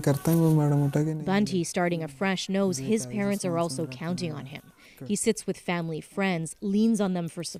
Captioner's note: speaking Foreign Language